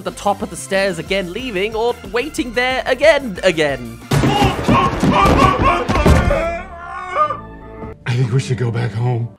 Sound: whimpering

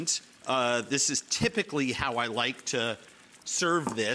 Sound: tongs clicking

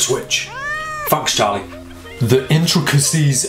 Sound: cat meowing

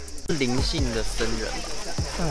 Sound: in Mandarin

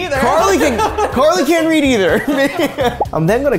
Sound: laughing

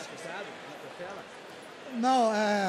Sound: foreign

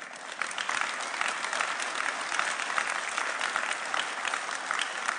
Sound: audience applauding

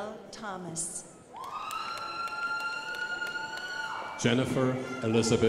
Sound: crowd applauding

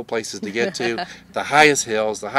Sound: laughs

